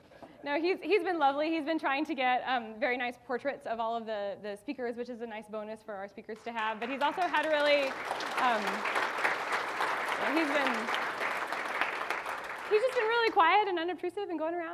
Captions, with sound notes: No, he's been lovely, he's been trying to get very nice portraits of all of the speakers, which is a nice bonus for our speakers to have, but he's also had a really he's been (audience applauding) he's just been really quiet and unobtrusive